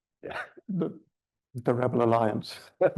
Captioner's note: chuckles